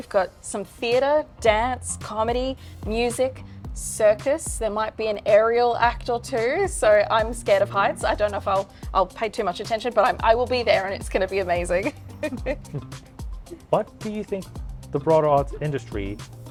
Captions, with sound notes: We've got some theater, dance, comedy, music, circus. There might be an aerial act or two. I'm scared of heights. I don't know if I'll pay too much attention, but I will be there, and it's going to be amazing. [laughter] -What do you think the broader arts industry